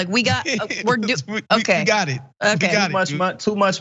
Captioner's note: laugh